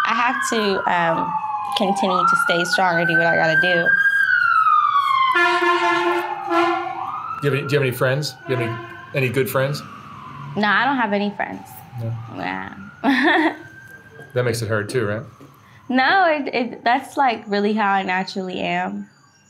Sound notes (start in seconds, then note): 4.1 sirens wailing; 13.0 laughing